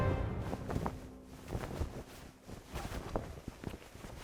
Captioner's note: flag flapping